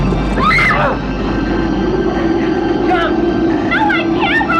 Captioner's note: laughs; screams